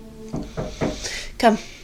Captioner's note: person knocking